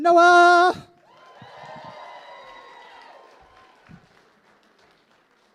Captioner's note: cheers and applause